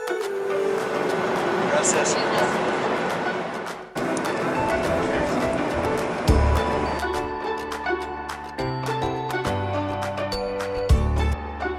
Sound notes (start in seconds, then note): 1.9 speaking Spanish; 4.7 upbeat music playing